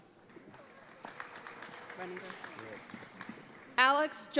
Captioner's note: audience applauds